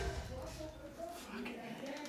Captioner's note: background Chatter